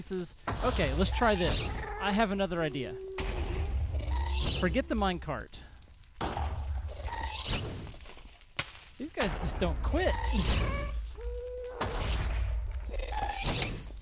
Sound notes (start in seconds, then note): 0.0 laughs; 5.0 shrieking and explosions continue